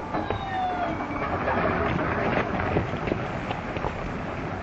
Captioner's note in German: Flugzeugtriebwerk heult